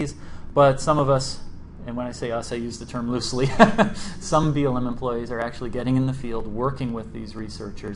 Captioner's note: laughs